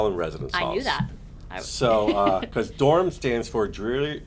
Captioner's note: laughs